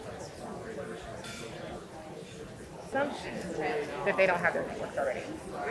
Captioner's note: audience chatter continues